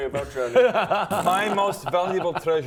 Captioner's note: laughs in BS